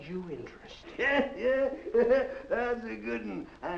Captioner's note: chuckles